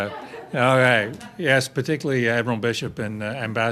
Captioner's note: laughter